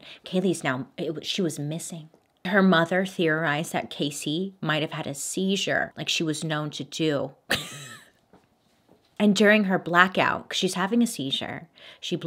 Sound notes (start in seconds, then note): 7.5 giggles